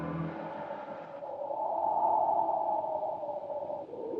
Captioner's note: wind howling